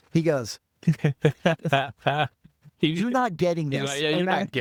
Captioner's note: laughing